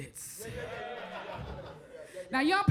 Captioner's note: crowd chuckles